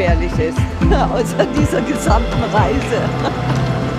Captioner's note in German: lacht